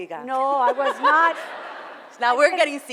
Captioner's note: foreign language; laughter